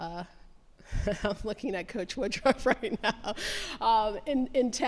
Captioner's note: laughs